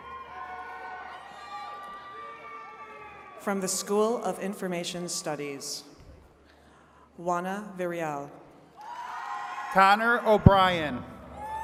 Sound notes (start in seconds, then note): 0.0 attendees cheering and clapping; 8.8 attendees cheering